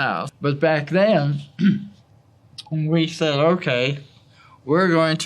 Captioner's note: cough